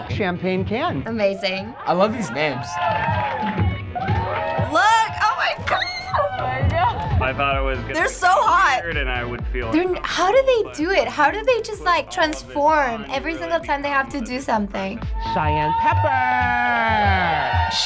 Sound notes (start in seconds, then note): 5.3 squeals